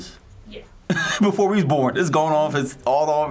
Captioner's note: chuckles